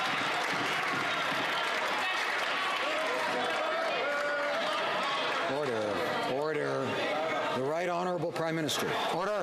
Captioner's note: applause